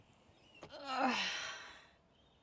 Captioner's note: grunts